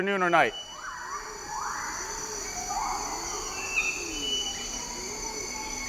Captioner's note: rainforest animals calling